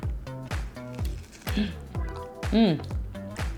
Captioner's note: light crunch